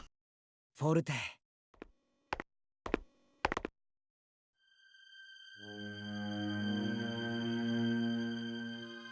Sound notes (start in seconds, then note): 4.2 silence